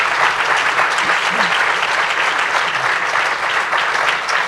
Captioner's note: applause